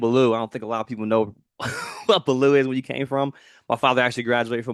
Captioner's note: chuckles